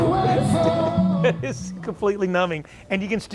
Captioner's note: laughs